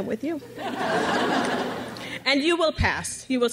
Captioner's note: crowd laughs